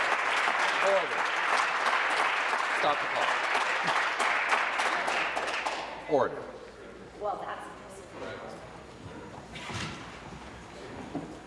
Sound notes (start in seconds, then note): 0.0 applause